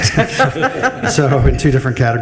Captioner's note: group laughs